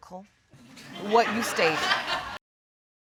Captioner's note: audience laugh